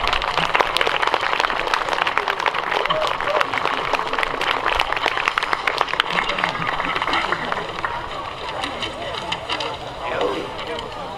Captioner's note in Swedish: Applåder